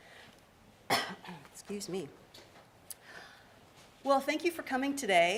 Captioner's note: coughs